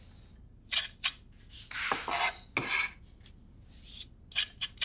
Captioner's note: knife scraping